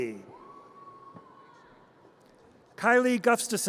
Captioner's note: audience cheers